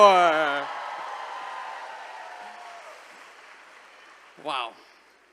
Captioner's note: attendees cheering